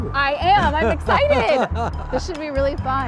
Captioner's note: laughs